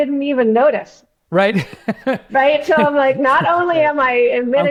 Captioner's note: laughs